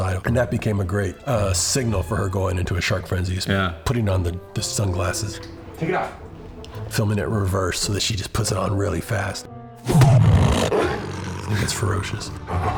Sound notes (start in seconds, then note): 9.8 growls